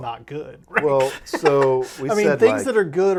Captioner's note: laughing